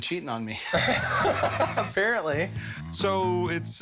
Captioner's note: laughter